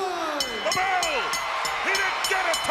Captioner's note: bell ringing